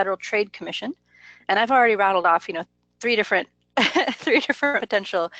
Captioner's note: laughs